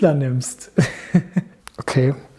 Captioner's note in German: Lachen